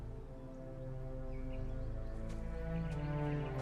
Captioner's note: bird chirp